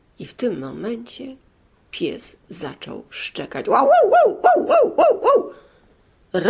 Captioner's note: dog barks